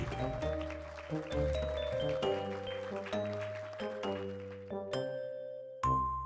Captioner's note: audience applauds; light music